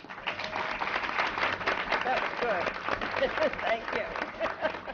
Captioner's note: applause